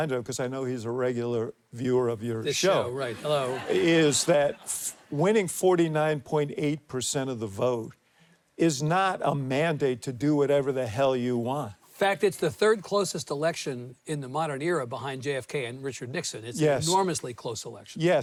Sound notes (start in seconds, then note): 3.0 audience laughs